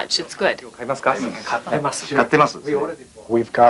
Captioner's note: speaking Japanese